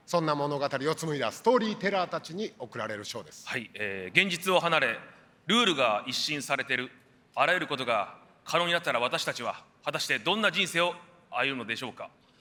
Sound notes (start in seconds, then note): none